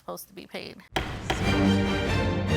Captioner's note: gavel thuds; suspenseful music